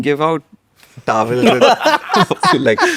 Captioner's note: laughs